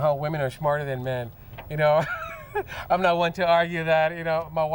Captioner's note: chuckle